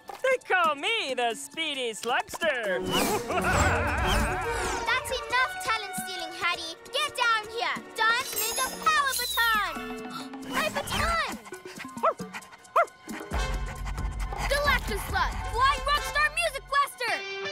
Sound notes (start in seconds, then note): 3.0 laughter; 11.5 gasps; 11.5 panting and barking